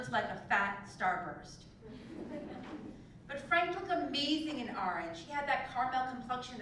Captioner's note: laugh